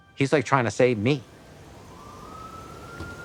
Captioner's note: distant sirens